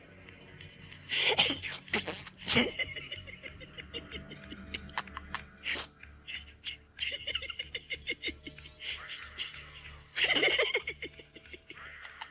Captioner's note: Gatekeeper rudely blows a raspberry your way